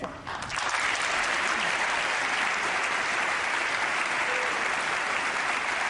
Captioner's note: applause